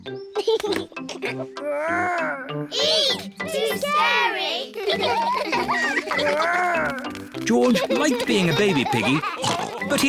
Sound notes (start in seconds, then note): 0.3 giggles; 7.3 all laugh